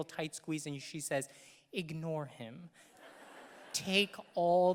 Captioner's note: audience laughing